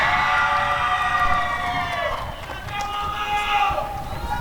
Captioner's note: applause and cheering